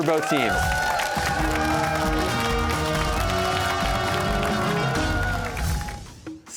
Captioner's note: cheers and applause